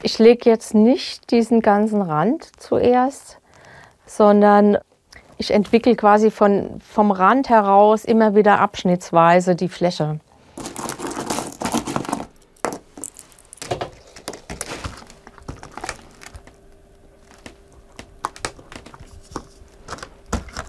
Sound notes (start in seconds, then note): 10.8 rattles